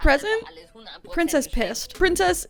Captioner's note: show contestant speaking in German